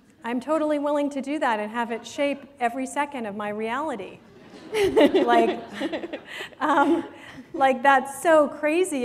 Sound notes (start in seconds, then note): 4.3 laughter